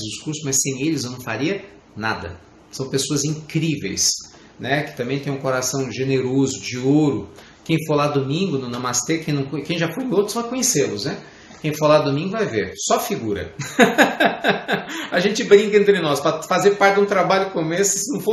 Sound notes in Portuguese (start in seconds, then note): 13.6 risadas